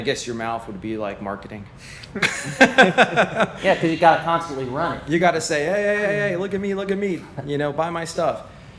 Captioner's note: laughter